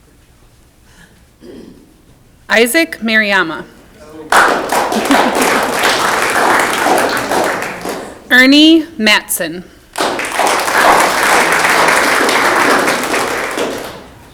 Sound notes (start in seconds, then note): 4.2 audience clapping; 9.9 audience clapping